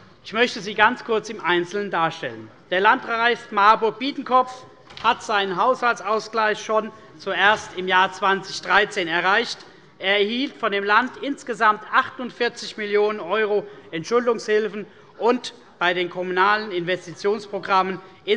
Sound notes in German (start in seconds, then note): none